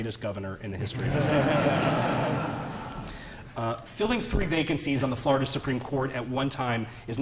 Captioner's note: laughter